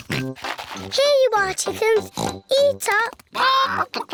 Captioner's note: oinks